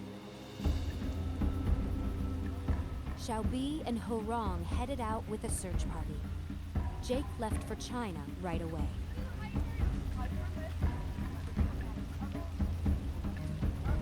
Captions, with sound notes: *Bell* Xiao Bi and Hou Rong headed out with a search party. Jake left for China right away. *indistinct chatter*